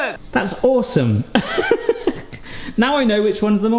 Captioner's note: laughs